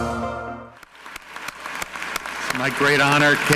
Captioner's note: audience clapping